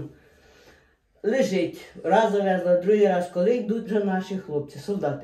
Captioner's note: Ukrainian